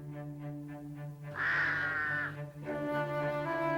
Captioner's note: cawing